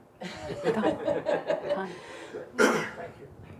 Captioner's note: crowd laughing